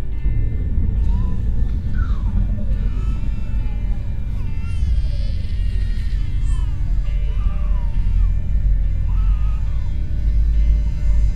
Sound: baby crying

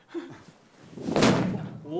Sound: bump

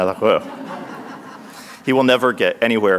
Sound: speaks in foreign language; audience laughs

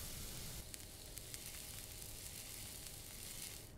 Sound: food cooking

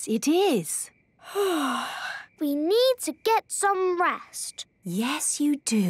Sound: yawning

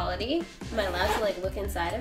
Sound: zipper opens

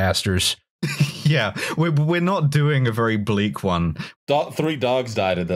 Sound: laughs

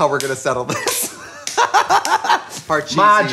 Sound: laughing

